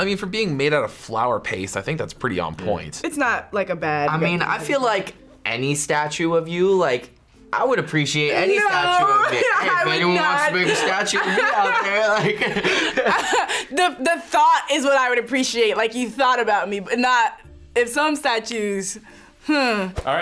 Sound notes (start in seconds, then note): 12.6 both laugh